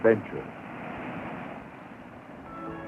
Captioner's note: waves crashing